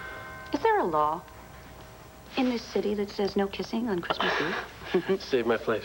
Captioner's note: doorbell rings